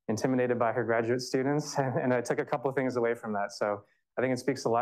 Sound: chuckles

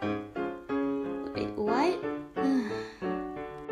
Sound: Felicity sighs

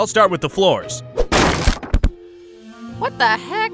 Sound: floor thudding

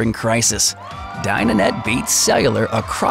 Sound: crowd Cheers

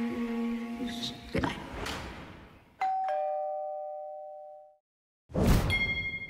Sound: ding! Dong!

